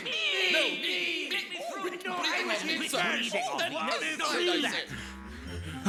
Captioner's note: squabbling